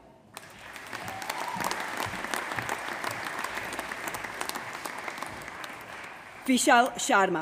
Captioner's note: applause